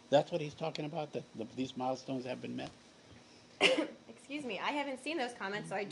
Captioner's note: cough